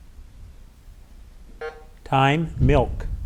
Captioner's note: button buzzing